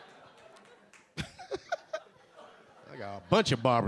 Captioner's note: a few audience members laughing; LilRel laughing